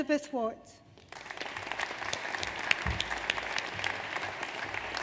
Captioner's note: audience applauds